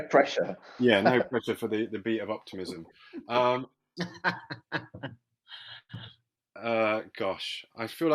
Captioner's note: laughter